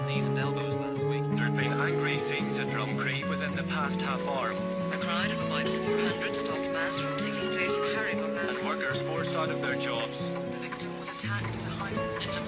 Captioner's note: radio broadcasts continue